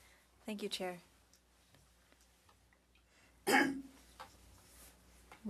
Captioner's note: speaking French